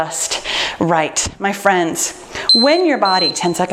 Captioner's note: timer beeping